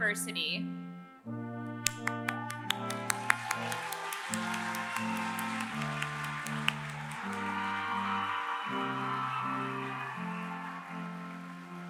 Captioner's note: applause